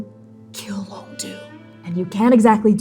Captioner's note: whispering